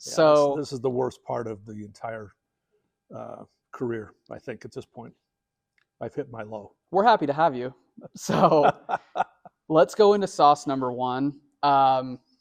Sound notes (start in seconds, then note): 8.2 laughs